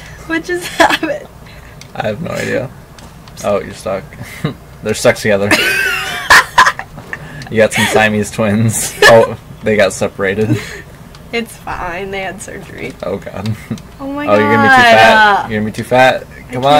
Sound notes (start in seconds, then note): 5.5 laughs